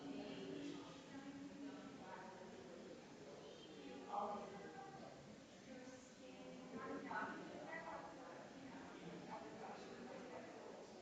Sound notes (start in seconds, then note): 5.3 people chattering distantly continues